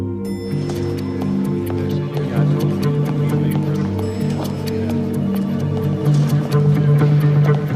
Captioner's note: elevator bell dings